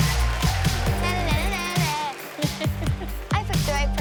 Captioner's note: laughs